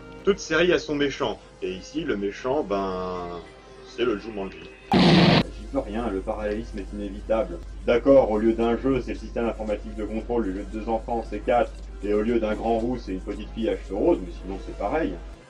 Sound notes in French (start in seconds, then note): 4.9 boum